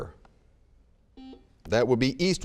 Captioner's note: buzzer beeping